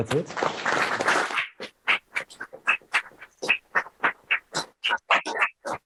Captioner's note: audience applauds